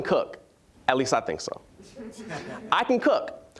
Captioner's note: audience chuckling